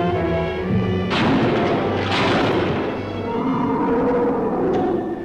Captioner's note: gun firing